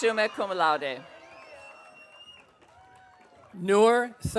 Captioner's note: audience cheering